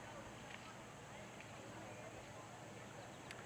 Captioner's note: people chattering; birds chirping